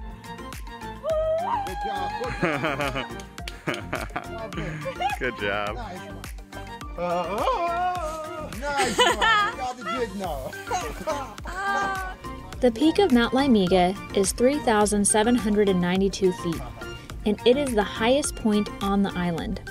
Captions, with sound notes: (Tarzan yell) (Tarzan yell) The peak of Mount Liamuiga is 3792 feet. And it is the highest point on the island.